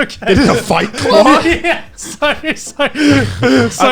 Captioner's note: laughing